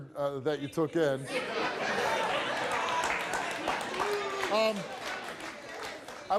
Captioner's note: audience laughs and claps